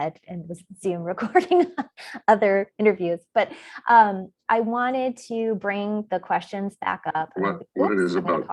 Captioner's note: laughs